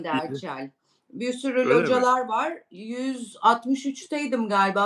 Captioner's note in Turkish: homurdanır